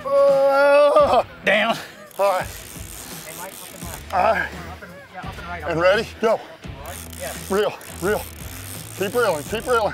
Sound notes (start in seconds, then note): 2.0 reeling noises; 6.8 reeling noises